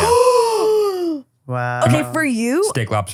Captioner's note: gasp